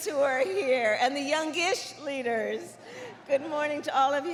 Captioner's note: laughter